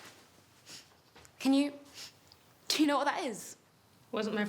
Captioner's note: sniffing